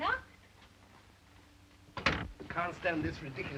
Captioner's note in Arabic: يغلق الباب